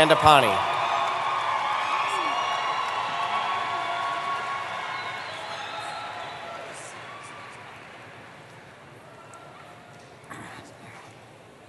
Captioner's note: cheering